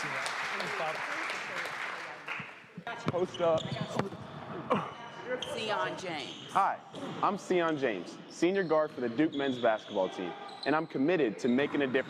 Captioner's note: applause